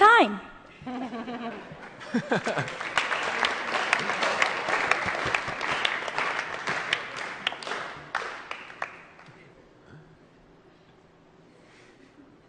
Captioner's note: laughter & Applause